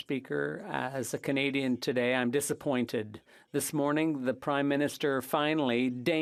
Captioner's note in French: voix de l'interprète